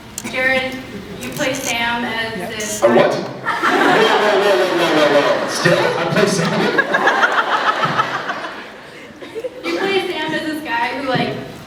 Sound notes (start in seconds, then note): 5.1 laughs; 7.0 laughs